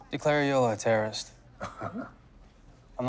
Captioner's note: laughs